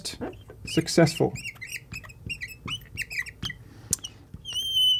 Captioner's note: chalk chirping